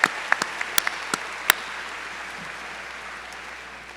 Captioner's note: applause